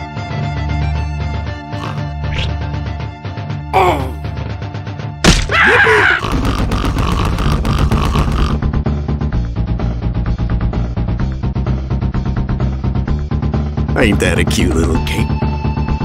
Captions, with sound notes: Oh! (splat) (crazy maniacal noise) (humping) Ain't that a cute little game.